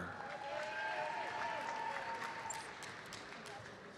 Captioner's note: audience cheers and applauds